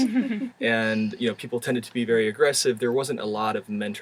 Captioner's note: laugh